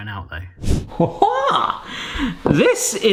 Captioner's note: screen wipe whooshes; exclaims jovially